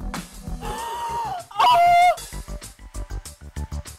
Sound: gasps

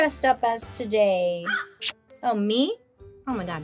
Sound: caws and smooches

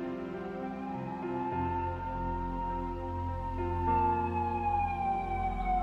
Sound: police sirens alarming

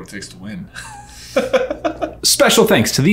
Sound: laughing

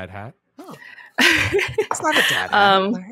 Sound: laughs

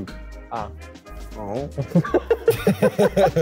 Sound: men laughing

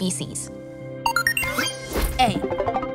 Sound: electronic beeping

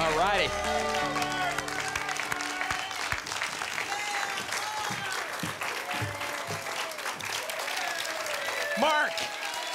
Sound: applause and cheering

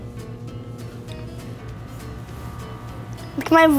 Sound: microwave humming

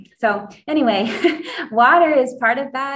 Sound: laughs

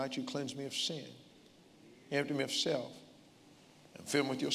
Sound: none

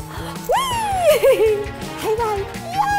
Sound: laughing

